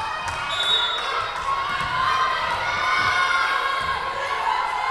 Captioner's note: whistle blowing